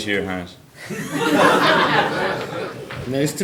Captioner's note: audience laughing